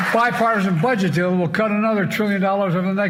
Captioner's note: cheers and applause